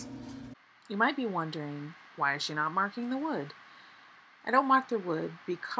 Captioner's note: voiceover